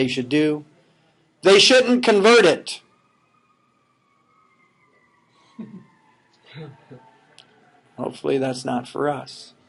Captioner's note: sirens blowing